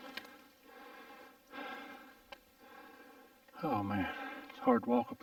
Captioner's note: heavy breathing